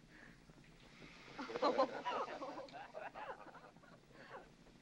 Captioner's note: women giggling